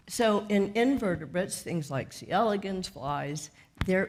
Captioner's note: none